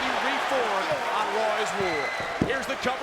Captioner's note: crowd cheering